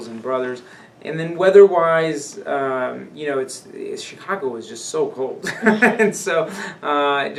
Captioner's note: laughs